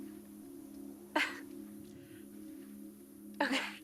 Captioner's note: laughs